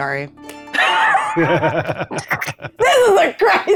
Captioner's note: players laughing